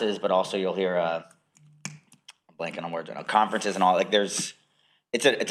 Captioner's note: snaps fingers